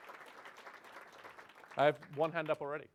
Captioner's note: clapping